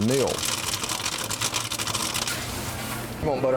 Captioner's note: sound of money clanging